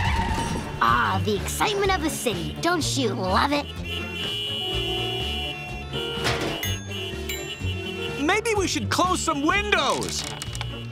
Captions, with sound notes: Ah, the excitement of the city. Don't you love it? [honking] Maybe we should close some windows!